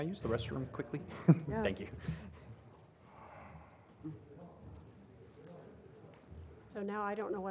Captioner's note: laugh